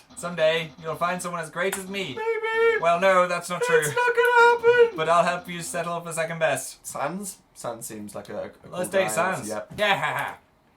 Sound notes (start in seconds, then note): 3.4 wailing; 3.6 still crying